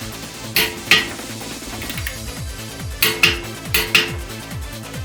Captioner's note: click